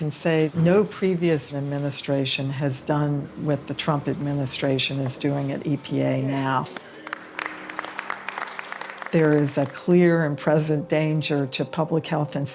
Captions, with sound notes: I can say no previous administration has done what the Trump administration is doing at EPA now. (applause) There is a clear and present danger to public health